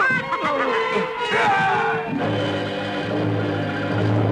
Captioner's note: laughing; yelling